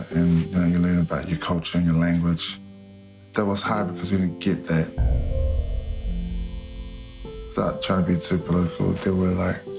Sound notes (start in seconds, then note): 5.8 shaving machine buzzing